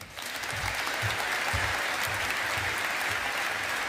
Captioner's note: audience applauding